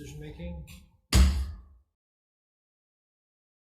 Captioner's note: gavel bangs